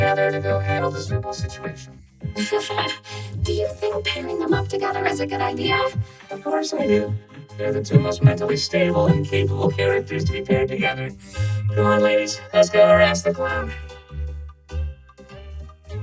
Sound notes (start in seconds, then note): 2.4 laughs nervously